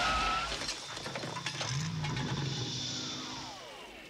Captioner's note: tires screeching; engine revs